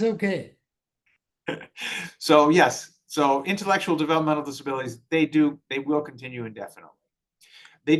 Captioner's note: laughs